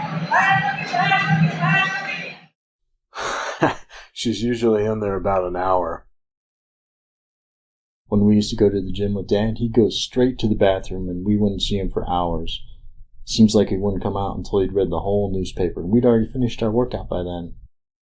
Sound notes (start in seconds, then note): 3.2 chuckles